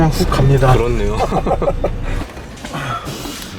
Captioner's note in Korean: ㅎㅎㅎ, ㅎㅎㅎ